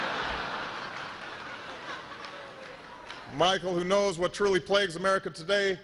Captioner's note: laughter